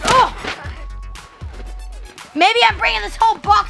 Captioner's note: shouting